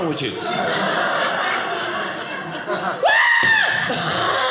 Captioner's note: audience laughing